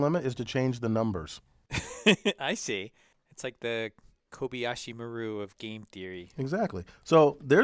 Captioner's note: laugh